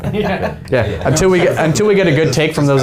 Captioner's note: men laughing